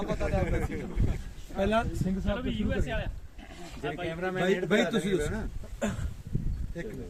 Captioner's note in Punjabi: ਗਲਾ ਸਾਫ਼ ਕਰਨ ਦੀ ਅਵਾਜ਼